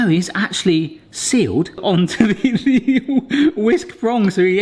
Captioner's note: laughs